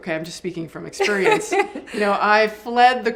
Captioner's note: laughs